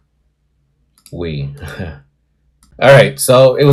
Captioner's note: nervous laughter